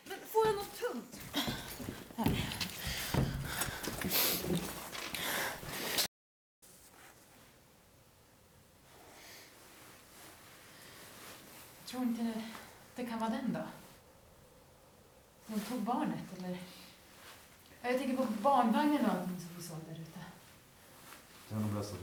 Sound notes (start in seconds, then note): 7.9 complete silence